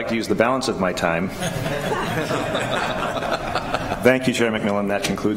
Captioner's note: laughter